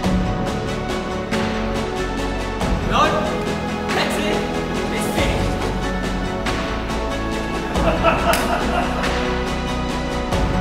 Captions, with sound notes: Nope! That's it. It's finished. (laughter)